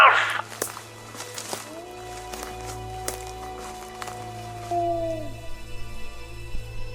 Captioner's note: cracking surface & howling Wolf; howling wolf